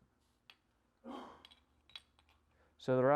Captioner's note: man coughs